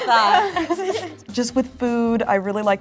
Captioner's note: everyone laugh